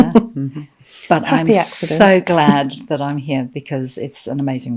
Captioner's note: laughing